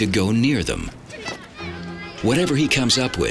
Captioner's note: kids chattering